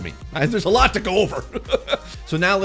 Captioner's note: laughing